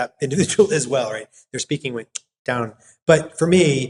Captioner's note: clicks